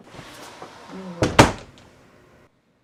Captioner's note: closing sound